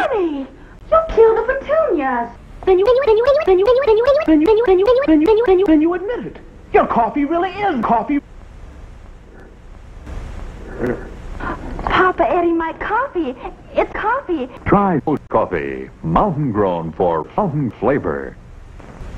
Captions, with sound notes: Honey! You'll kill the petunias! (pitch-shifted in song-like fashion) then THEN then THEN then THEN then THEN Then you admit it! Your coffee really IS coffee! ...rer... Papa Eddie, my coffee... It's coffee! Try OLD coffee! Mountain grown for fountain flavor!